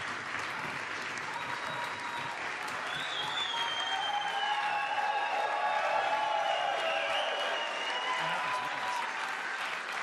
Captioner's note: applause